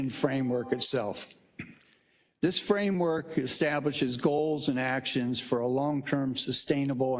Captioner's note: cough